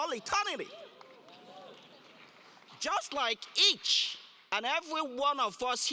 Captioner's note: applause